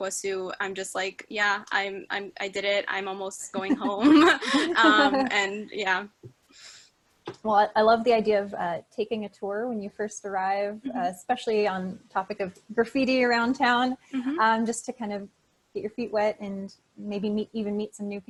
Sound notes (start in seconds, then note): 3.6 laughter